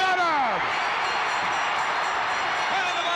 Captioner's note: crowd cheering